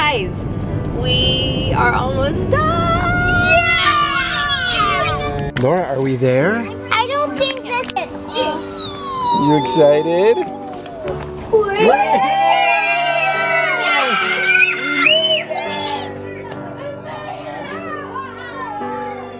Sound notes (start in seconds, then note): 3.6 kids shouting; 8.3 squeals; 16.6 mellow music